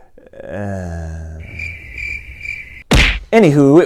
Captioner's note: laugh; sigh; crickets